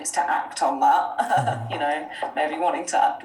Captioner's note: laughing